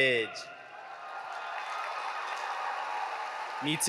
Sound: audience cheering

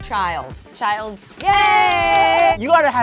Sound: ding

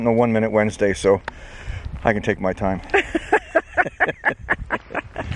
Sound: laughing

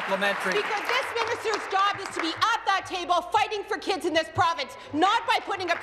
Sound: applause

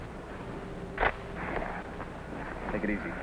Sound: rifle clicks

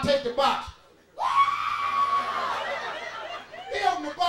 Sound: Steve screaming

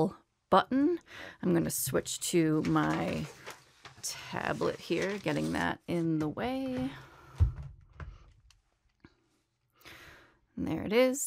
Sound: rustling noise in background

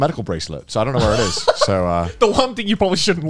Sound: laughing

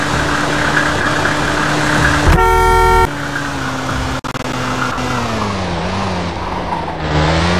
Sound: car honks, speeds yellow light and slows down

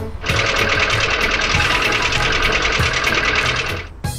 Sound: engine sputtering

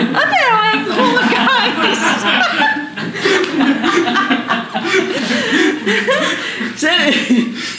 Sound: laughter

